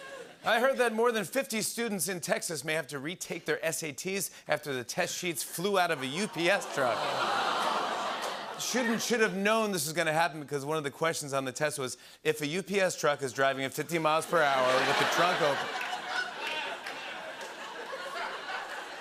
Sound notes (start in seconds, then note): 6.7 audience groans; 17.4 laughter